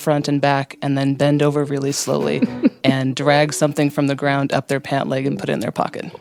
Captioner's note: laughter